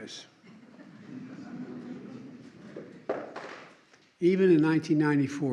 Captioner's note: laughter